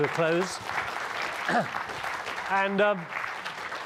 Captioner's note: audience applauding